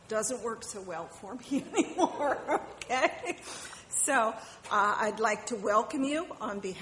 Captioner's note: laughs